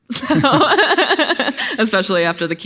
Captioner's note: laughs